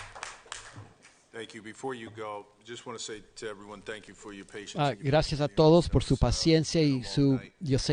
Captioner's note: applause